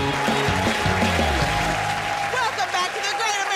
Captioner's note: cheers and applause